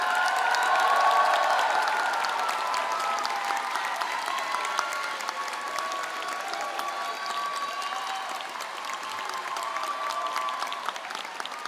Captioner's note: applause